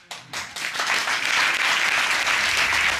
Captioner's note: audience applauds